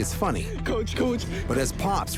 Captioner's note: laughing